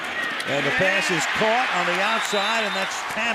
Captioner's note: cheering